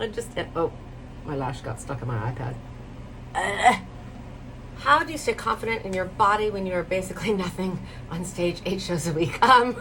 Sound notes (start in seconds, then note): 3.5 grunts